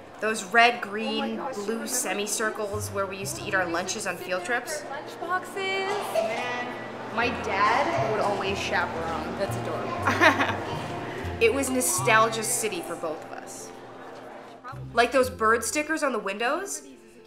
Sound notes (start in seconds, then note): 9.8 laughs